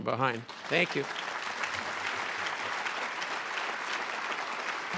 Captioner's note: crowd applauding